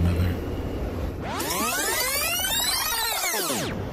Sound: tape fast forwarding

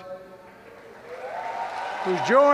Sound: applause

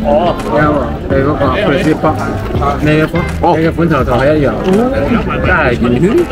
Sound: crunchy sound

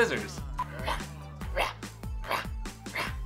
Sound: roars

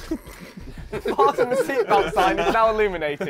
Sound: laughing

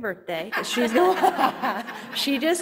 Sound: panel and audience laughing

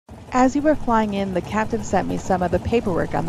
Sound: car engine in background

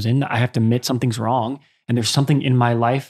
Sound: none

